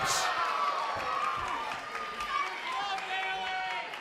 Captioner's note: applause